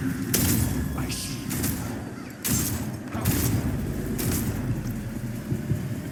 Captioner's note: gun shooting; glass shatters